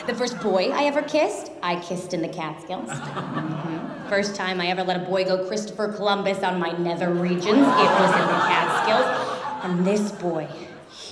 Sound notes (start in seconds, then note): 2.9 crowd laughs and clamors; 7.3 crowd laughs in shock